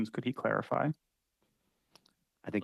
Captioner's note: speaking French